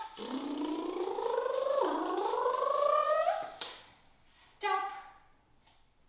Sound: imitates engine

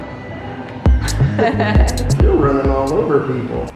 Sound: laughing

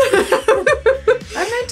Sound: laugh

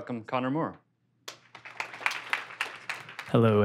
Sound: applause

